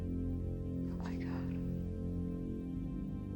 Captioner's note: whispers, sniffling